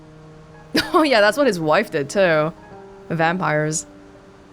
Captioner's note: chuckles